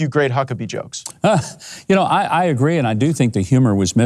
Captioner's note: laughs